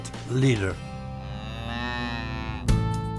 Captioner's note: mooing; upbeat music